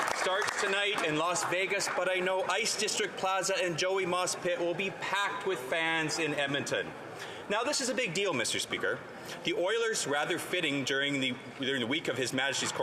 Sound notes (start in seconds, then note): 3.4 some Applause